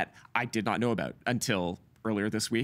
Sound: none

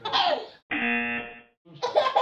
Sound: baby laughing; buzzer; baby laughing

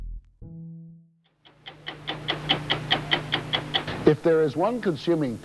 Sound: clock ticking

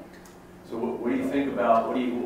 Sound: voiceover

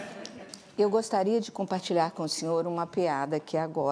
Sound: laughter; speaking portuguese

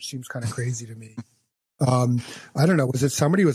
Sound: laughs

